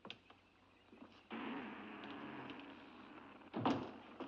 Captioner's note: door creaks shut